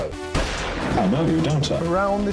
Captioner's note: gun blasts